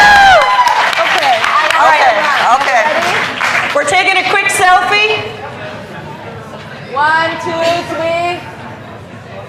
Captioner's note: cheers and applause